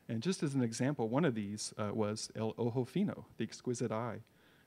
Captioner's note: in foreign language